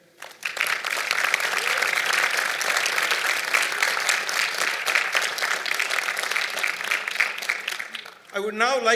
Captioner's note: applause